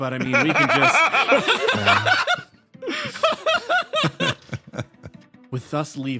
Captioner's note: laughs